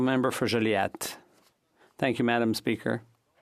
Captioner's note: speaking French